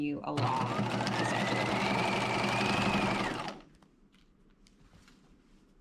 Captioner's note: sewing machine whirring